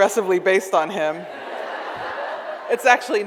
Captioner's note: audience laughs